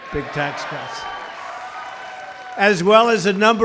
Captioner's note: applause